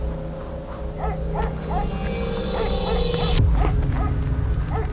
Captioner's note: dog barking